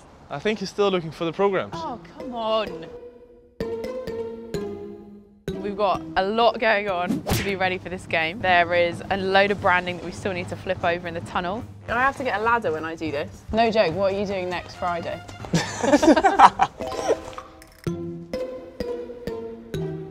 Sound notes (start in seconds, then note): 15.5 laughs